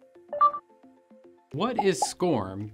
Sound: button beeps

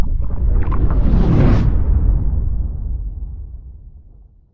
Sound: whooshing

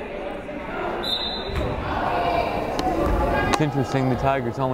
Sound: whistle blows

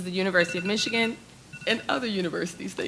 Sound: timer beeps

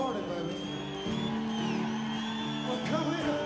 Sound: crowd cheering

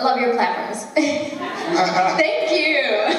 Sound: laughter

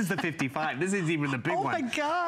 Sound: laughter

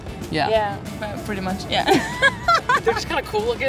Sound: laughs

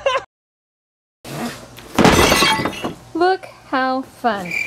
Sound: laughs; glass shatters

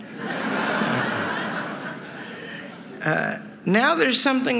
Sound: laughter

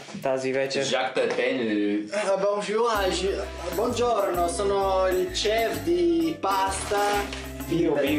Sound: some broken French and some broken Italian

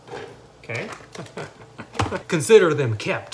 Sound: laughs

